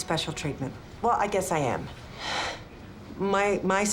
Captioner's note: sighs